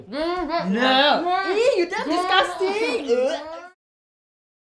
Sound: gags

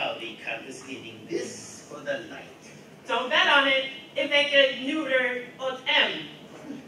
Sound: none

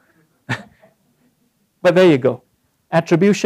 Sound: laugh

